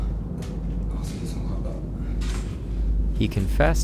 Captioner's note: speaks French